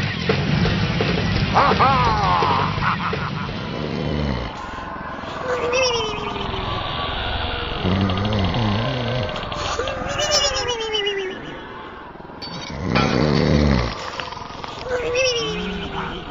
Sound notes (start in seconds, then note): 1.5 laughs; 3.6 snoring